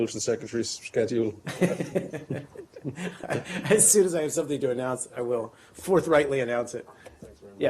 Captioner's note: laughter